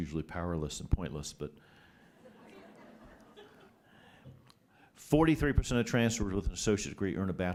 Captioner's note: laughter